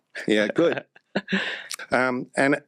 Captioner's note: laughs